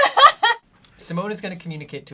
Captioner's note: laughs